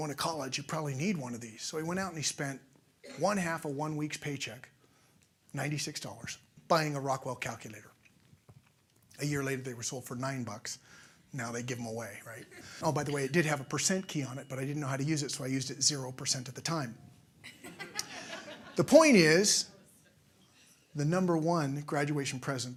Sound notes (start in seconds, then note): 17.4 laughter